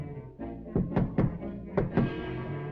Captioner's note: worrying music; knocking on door